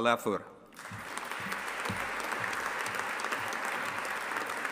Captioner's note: audience applauding